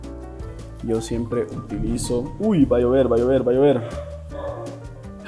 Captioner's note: thunders